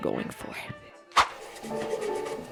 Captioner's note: swoosh